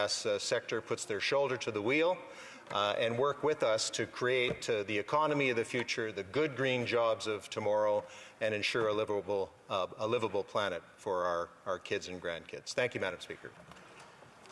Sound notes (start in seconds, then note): none